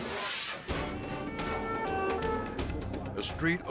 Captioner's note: sirens wailing